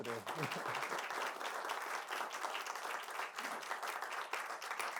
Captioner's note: applause